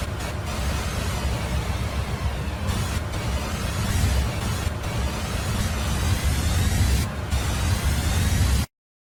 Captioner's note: eerie sound; silence